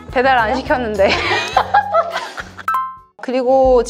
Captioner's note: laughter